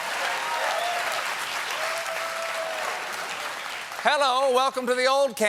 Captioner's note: applause